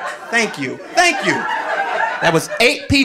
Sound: audience laughing

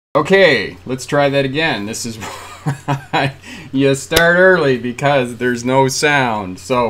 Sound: laughing

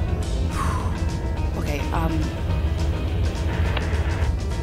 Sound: phew

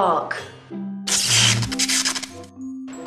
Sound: literal electrical jolt

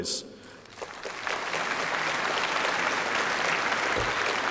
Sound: applause

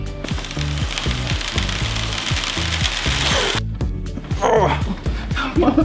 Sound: cereal grains smacking onto wood

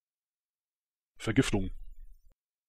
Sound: fast Pronunciation

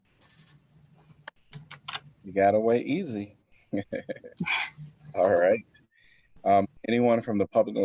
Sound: laughter

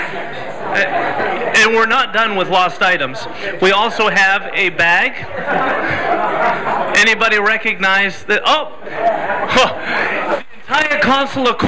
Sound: laughter

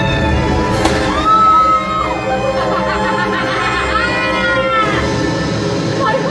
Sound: Winifred Cackling

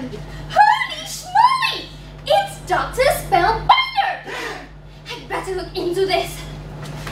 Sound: gasps

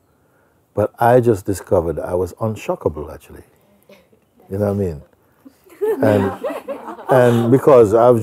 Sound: Lachen

